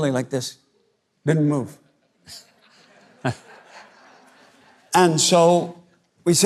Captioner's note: crowd laughs